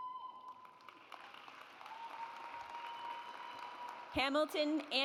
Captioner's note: audience applauds